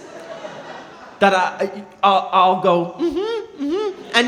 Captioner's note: humming